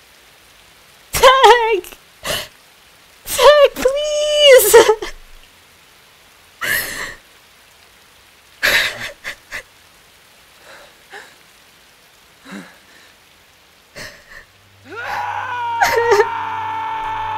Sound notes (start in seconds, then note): 2.2 gasp; 6.7 crying ensues